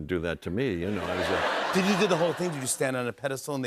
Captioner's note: laughter